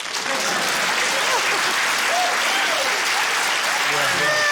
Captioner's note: cheering, applause, laughter